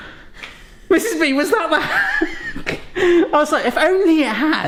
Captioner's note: laughs